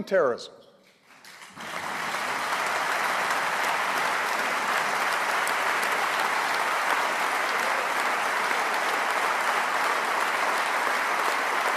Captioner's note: applause